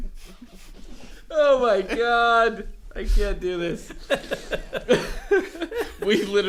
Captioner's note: everyone breaks down laughing